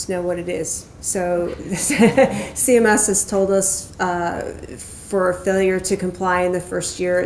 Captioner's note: laughs